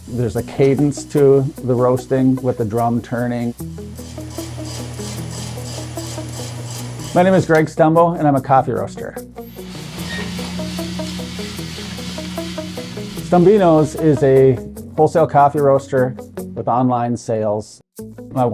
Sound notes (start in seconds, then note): 4.0 machine rattling; 9.4 machine whirring